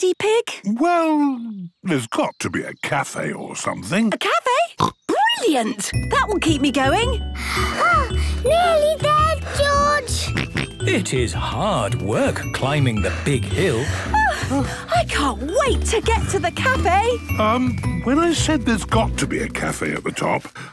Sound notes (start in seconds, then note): 4.5 snorts; 7.2 panting; 10.2 snorts